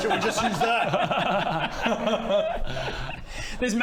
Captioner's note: regretful giggles